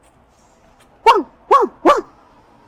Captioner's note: dog's barking